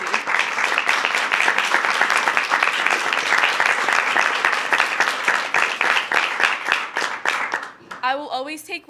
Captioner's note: applause